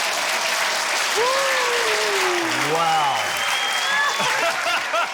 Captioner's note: sighs deeply; cheering, applause, laughter